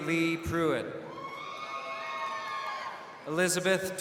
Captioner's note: crowd cheering